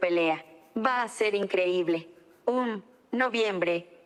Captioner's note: speaking spanish